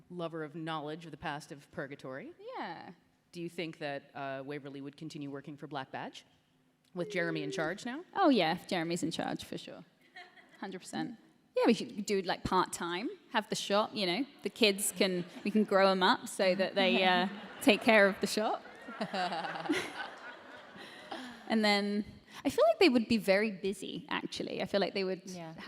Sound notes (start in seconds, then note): 18.7 laughter